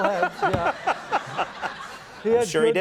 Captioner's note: Conan and audience laughs